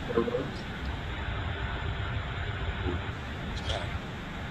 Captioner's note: static noise